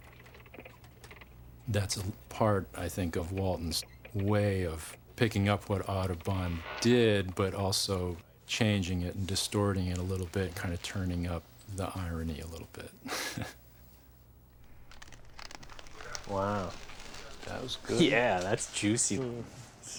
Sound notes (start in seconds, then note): 13.0 laughs